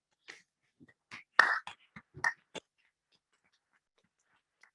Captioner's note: members clapping